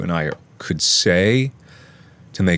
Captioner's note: another inhale